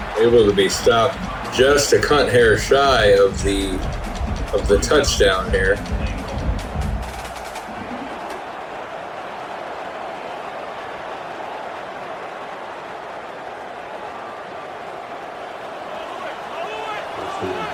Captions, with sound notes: Able to be stopped just to cut hair shy of the of the touchdown here. [Crowd Noises] [Crowd Noises]